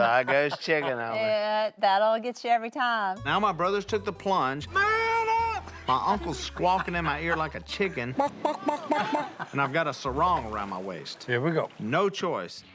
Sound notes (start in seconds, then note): 8.2 Si clucks